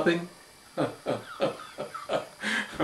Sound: laughs

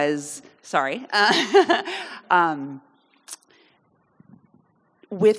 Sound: chuckling nervously

